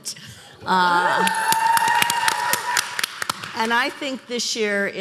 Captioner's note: applause